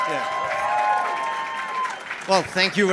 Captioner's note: applause